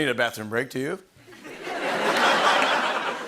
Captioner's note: laughter